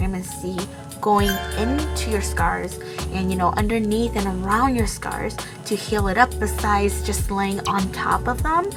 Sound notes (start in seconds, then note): 1.2 fairy sound effect